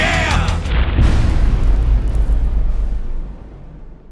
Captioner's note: impact